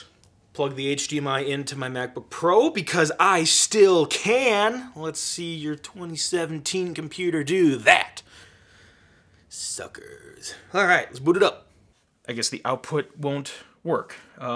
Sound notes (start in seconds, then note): none